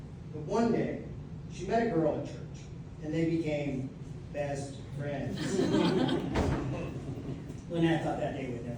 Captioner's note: laughter